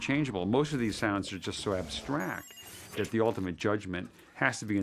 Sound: none

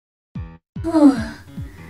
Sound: sigh

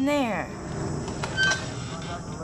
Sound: door hinge squeaks

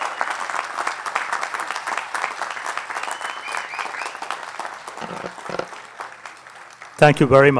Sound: applause

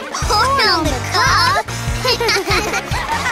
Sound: laughing

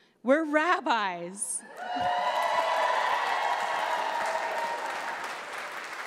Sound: audience cheers

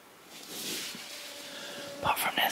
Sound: mozzie buzzing

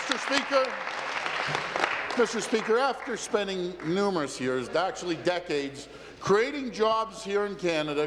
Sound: applause

